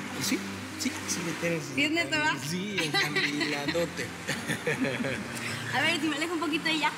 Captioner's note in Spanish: risas